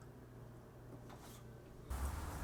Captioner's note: blinds close; more jingling, city noise